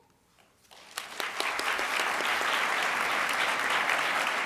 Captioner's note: audience applauds